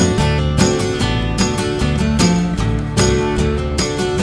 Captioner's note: wind blowing